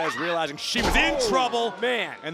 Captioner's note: body thudding